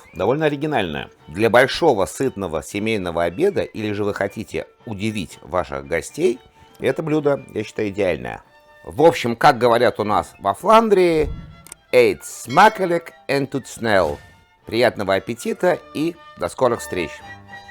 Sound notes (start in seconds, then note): 10.0 speaking Flemish